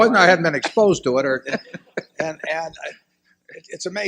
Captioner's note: laughter